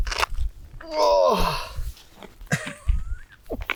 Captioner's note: grunts